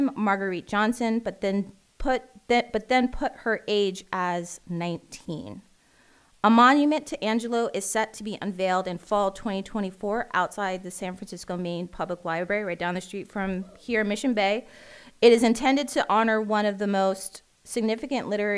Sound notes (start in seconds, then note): none